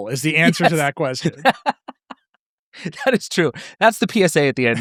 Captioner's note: laughing